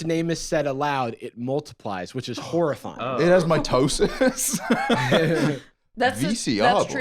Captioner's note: laughs